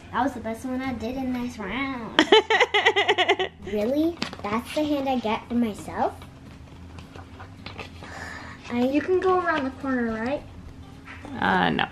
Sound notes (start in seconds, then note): 2.2 laughs